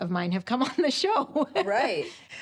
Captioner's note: chuckles